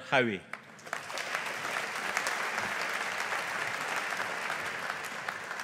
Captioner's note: audience applauding